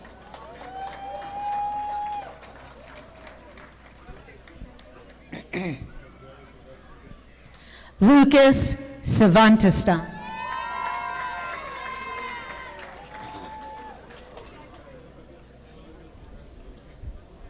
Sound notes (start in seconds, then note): 0.0 audience applauding; 10.3 audience applauding